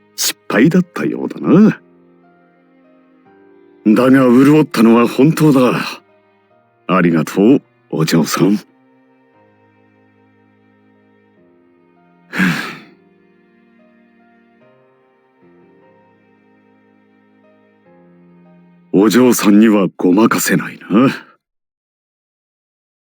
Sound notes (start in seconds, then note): 12.3 sigh